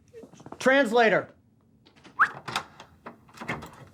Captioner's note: whistles